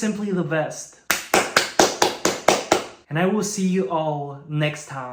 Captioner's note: applause